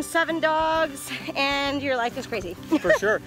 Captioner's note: laughs